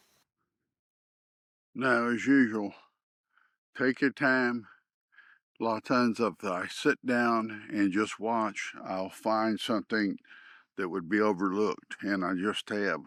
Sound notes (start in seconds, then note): none